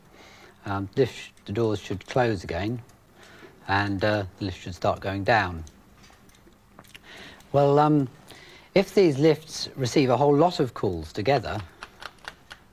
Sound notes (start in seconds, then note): none